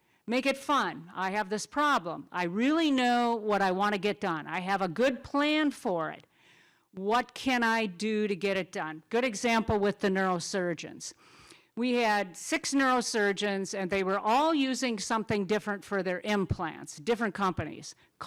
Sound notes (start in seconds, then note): none